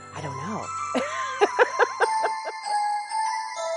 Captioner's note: laughs